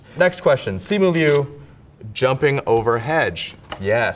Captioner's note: paper rips